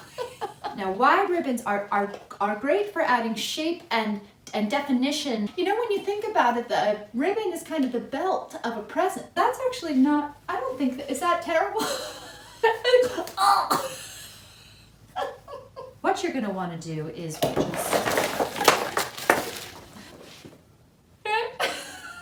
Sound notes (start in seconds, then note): 17.4 noise of stuff hitting ground